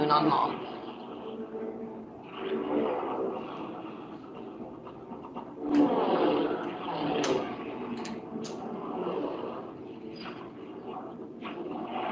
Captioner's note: music, sound of airplane engines